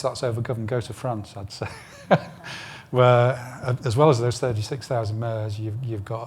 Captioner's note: laughs